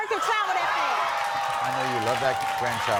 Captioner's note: applauding